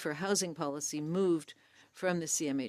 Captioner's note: speaking French